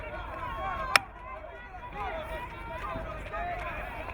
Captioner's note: crowd cheering